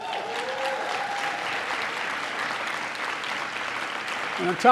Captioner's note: applause